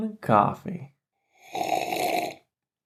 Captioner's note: loud slurp